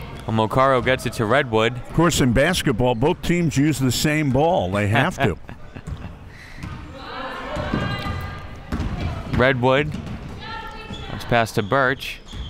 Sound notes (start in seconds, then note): 5.2 laughs; 6.8 crowd murmuring